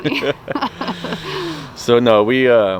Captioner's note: laughing